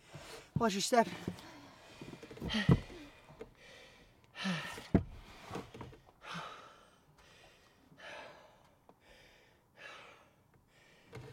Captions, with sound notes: Watch your step. (Breathing calming down)